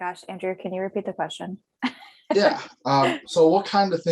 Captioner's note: laughter